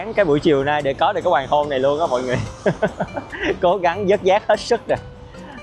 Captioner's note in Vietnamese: tiếng cười